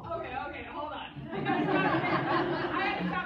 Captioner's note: laughter